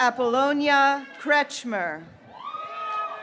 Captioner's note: graduates cheering